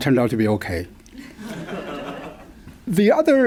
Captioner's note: laughter